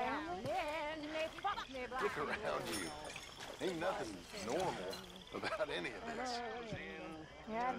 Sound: laughs

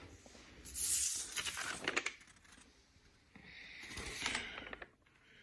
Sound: paper rustling

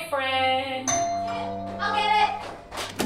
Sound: doorbell rings

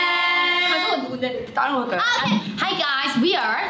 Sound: speaking in Korean

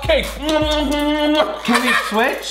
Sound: kissing noises

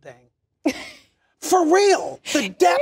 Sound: laughs

